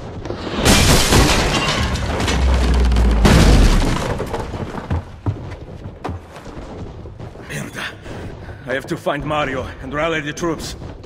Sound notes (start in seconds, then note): 0.5 cannon ball breaks through window; 2.5 wood crumbling; 4.8 cannons firing